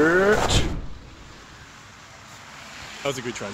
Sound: air whooshing

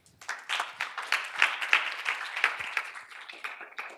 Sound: applause

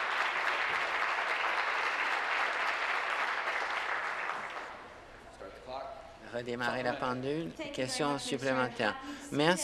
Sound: applause

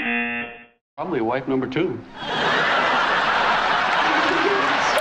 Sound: buzzer; audience laughing

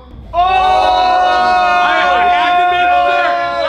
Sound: cheering

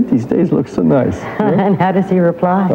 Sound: laughing

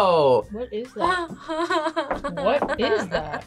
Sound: laughs in disbelief

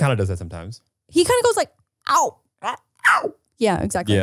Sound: animal noises

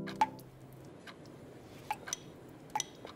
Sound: ticking and dripping

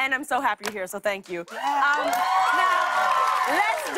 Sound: cheers and applause

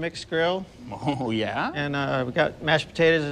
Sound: laughs

